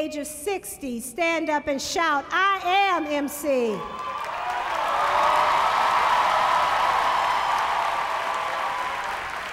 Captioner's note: applause